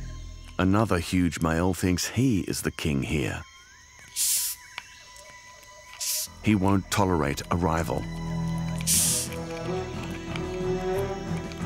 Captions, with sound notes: Another huge male thinks he is the king here. [hissing] He won’t tolerate a rival. -[hissing] -[dramatic music playing]